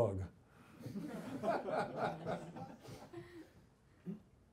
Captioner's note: audience laughs